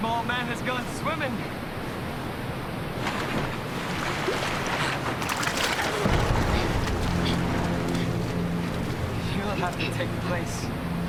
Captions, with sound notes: - Small man has gone swimming. (splashing) (dramatic orchestral music) You'll have to take the place